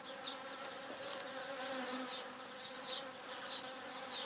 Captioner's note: buzz